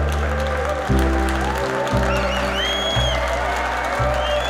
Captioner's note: applause